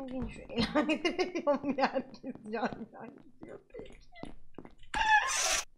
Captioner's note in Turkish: gülerek